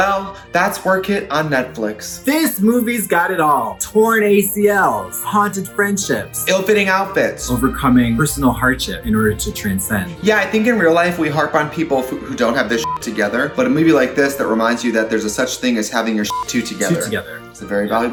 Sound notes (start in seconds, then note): 12.8 beep; 16.3 beep